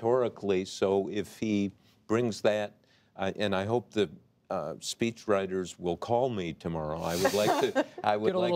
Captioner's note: laughter